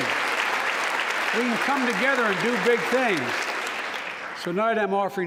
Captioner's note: applause